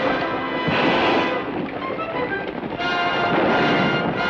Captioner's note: gun fires